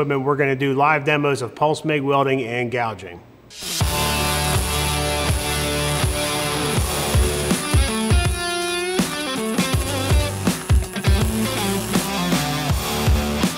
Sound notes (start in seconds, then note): 3.5 upbeat rock music; 3.5 welding machine buzzing